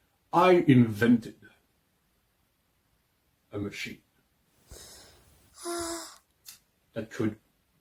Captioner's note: Clover Sigh In The Background